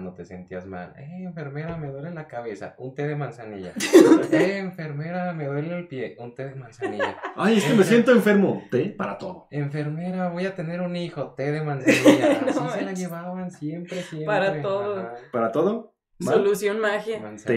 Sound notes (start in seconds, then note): 3.7 laughter; 11.8 laughter